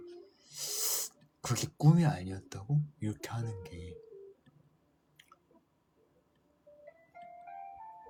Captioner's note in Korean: 콧방귀